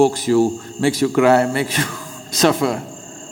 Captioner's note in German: Lacht